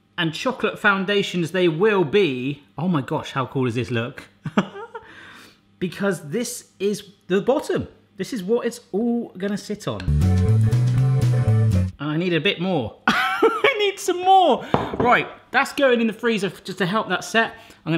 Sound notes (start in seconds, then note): 4.2 laughing; 13.2 laughing